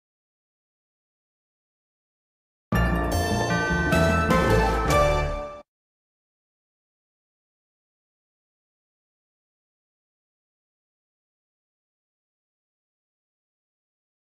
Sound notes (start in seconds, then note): 2.7 upbeat orchestral music; 5.8 silence